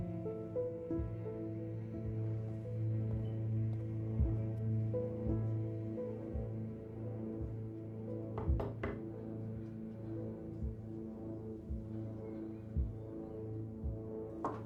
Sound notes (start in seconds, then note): 0.3 light thoughtful music continues; 8.4 hand knocking on door; 11.4 tense droning music